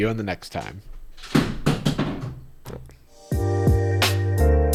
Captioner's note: loud thump; upbeat music